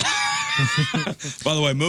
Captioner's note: laughing